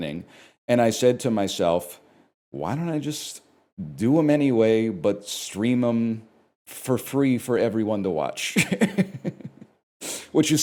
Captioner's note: chuckles